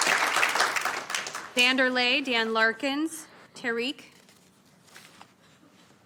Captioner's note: applause